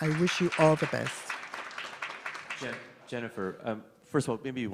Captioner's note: applauds